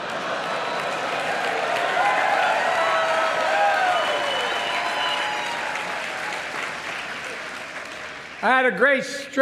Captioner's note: laughter